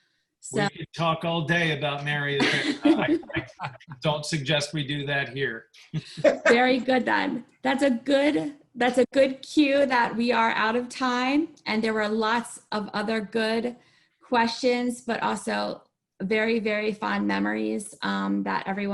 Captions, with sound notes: We could talk all day about Mary Avara. I don't suggest we do that here. [Group laughter] Very good then. That's a good cue that we are out of time. And there were lots of other good questions, but also very, very fond memories that everyone